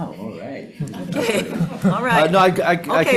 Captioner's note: laughs; audience laughing